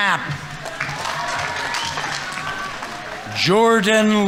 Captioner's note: audience members cheering; audience applauding